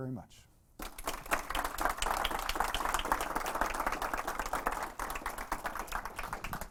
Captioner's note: audience applause